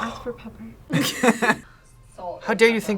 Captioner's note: both laugh